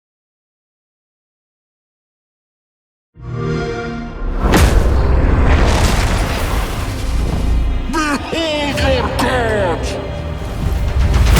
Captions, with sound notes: [XBOX SOUND] [RUMBLING] Behold your gods!